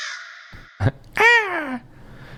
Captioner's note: caw